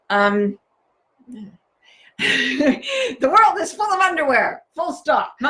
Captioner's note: chuckles